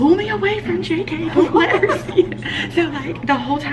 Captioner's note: laughing